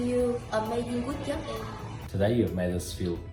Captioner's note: speaking in foreign language